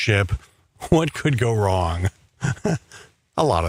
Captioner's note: he chuckles